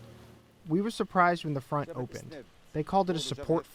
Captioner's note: through translator